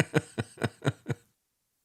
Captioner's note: laughs